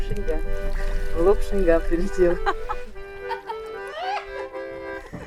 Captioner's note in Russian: смех